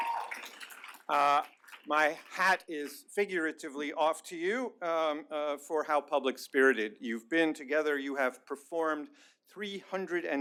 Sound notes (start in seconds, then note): 0.0 applause